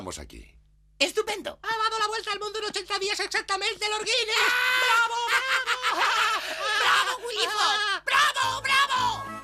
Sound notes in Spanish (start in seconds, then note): 4.7 ríe